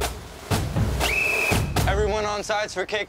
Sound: bell whistling

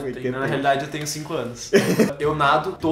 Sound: inserts laugh

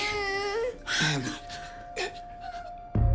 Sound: groans

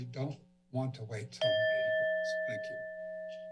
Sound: bell ring

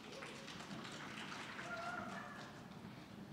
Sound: scattered applause

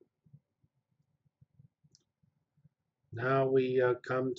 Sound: pause

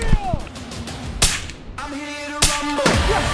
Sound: gunfire

